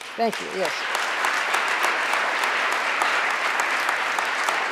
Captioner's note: audience applauding